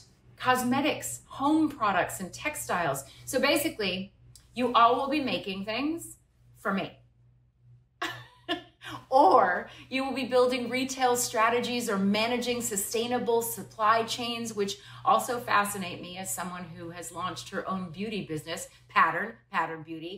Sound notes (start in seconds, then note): 8.0 laughter